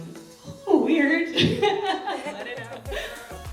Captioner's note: laughs back tears